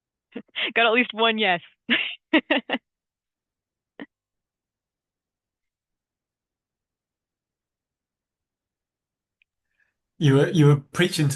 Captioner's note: laugh